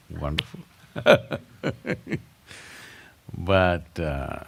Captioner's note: laughs